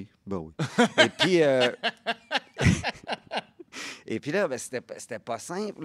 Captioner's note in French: rires